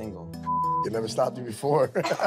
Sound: beep; laughing

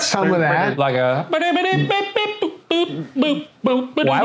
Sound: imitates jazz music

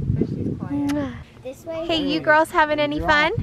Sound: kiss

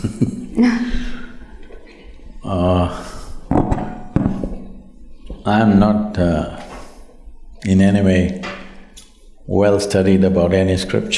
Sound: laughs

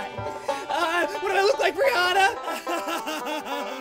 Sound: sobs

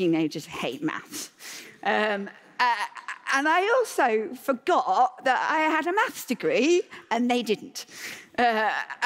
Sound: laughter

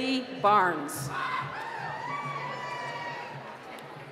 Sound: cheering

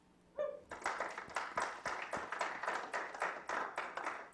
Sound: clapping

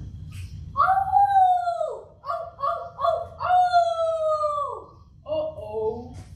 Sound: coyote wails and howling

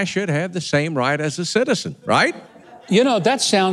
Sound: audience laughing

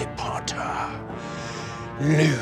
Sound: deep breath

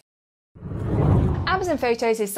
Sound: screen whooshing

